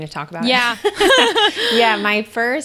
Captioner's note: laughs